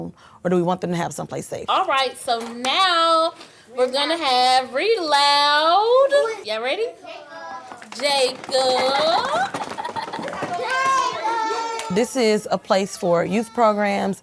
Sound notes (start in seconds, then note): 8.0 drumming; 8.3 laughs